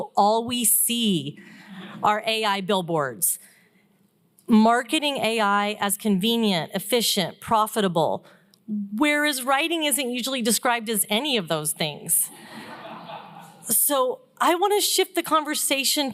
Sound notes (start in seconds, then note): 12.4 laughter